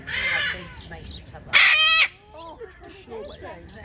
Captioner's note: macaw squawks loudly!